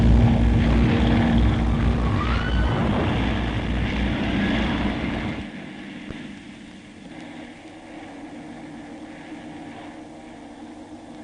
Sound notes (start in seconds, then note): 2.1 screams, cries; 2.2 The sound of Bomber aircraft